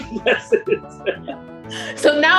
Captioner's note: all laughing